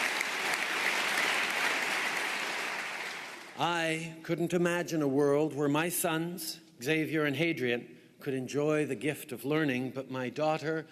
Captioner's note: applause